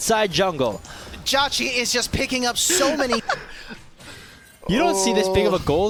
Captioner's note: laughter